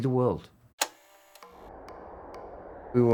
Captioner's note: click